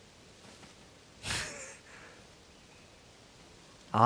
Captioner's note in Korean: 웃음